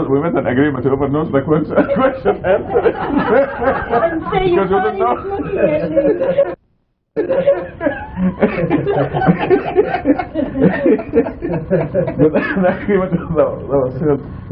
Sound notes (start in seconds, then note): 3.5 laughter